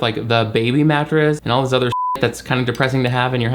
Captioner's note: beep